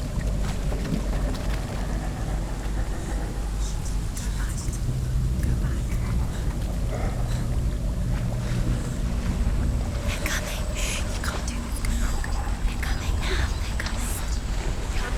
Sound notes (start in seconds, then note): 0.0 strange rumbling intensifies; 3.2 hushed; 7.7 nervous breathing; 10.3 whispering; 14.9 frightening noise intensifies